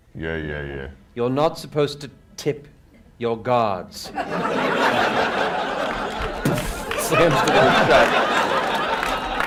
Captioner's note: boof